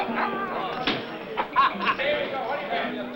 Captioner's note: laughs